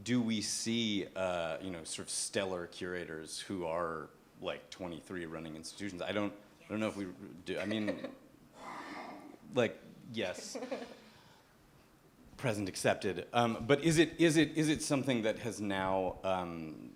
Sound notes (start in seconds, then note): 7.6 laughs